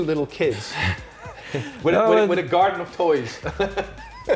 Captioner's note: laughing